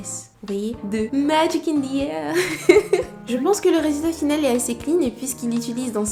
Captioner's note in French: rires